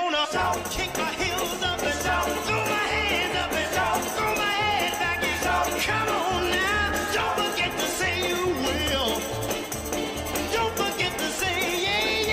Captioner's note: cheers and applause